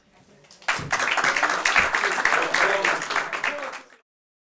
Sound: applause

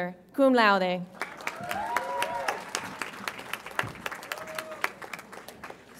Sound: audience applauds and cheers

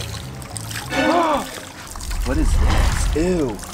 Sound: dramatic tune; gasps

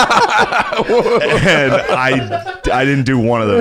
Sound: laughter

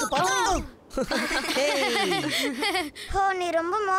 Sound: laughing

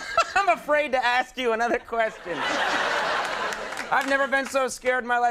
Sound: audience laughing

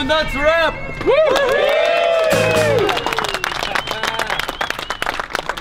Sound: cheering

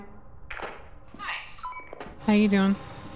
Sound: over walkie-talkie

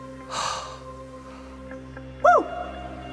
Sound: sighs

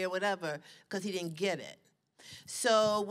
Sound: none

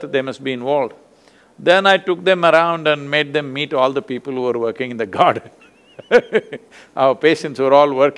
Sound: laughs

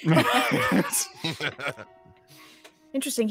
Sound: all laugh

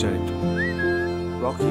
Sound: whistle

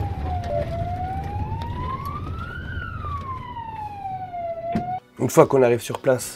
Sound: emergency sirens

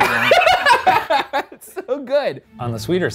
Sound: laughing

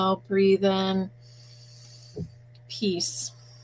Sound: breathing in

